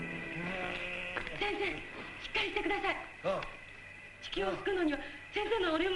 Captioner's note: speaking foreign language